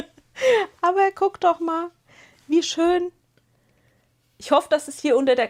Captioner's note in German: gelächter; japst